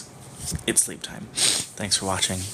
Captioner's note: snuffle